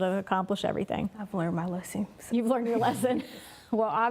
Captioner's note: laughing